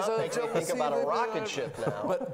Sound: laughing

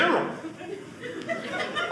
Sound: audience laughing

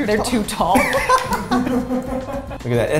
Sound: laughs

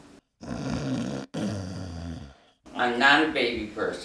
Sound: snores

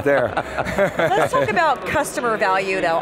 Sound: laughing

